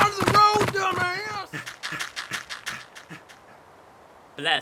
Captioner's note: N00bly panting